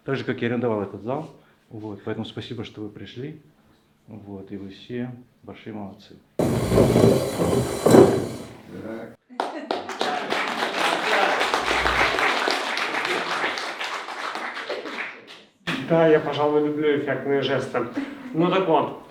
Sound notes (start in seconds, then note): 12.5 applause